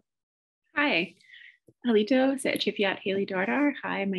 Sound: speaking Native Language

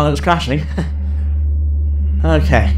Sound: giggle

